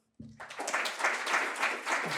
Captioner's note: applause